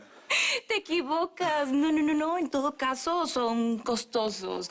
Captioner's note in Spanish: Ríe